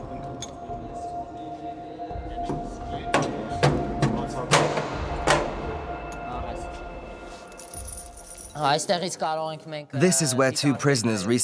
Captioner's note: voiceover